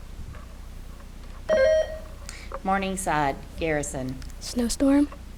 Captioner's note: buzzer beeps